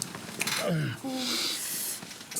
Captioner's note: John groans